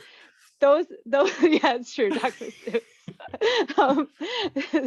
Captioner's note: both laughing